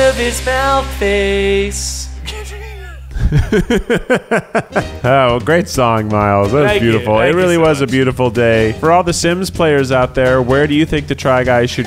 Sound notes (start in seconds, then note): 3.0 laughter